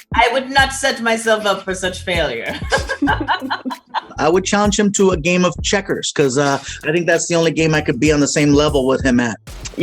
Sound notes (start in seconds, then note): 2.4 laughter